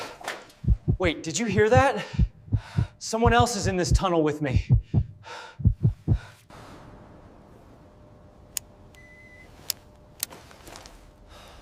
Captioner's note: sighs